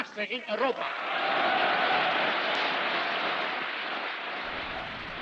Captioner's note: audience cheering